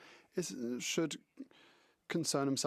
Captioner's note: speaking French